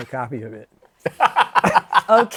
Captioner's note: laughs